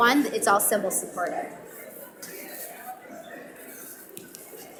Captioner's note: audience mumbling